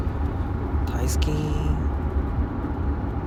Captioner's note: speaking Japanese